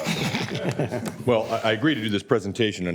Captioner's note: laughter